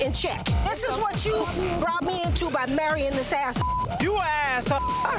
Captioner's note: beep